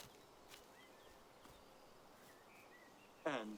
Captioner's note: birds singing